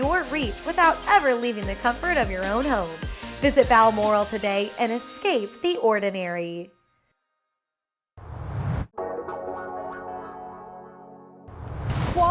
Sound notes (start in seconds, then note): 8.2 whoosh; 10.1 splash